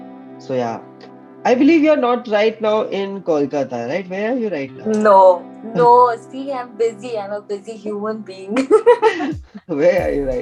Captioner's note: both laugh